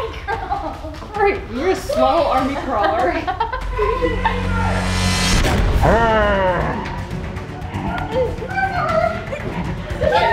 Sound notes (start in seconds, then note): 4.1 dramatic music; 5.6 neighbor growling